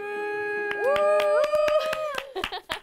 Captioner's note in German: Jubel